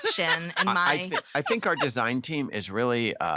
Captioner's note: laughing